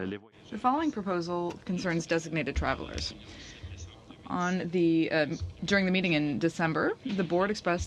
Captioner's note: speaking French